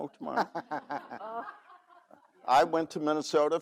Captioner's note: laughs